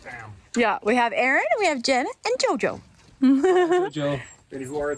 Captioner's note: laughs